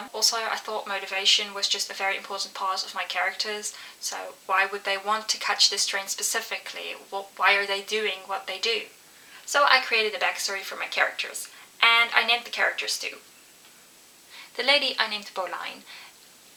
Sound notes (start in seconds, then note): none